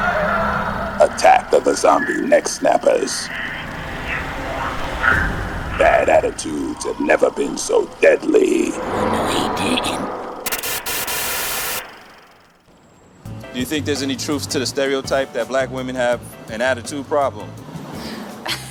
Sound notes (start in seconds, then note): 9.2 static buzzing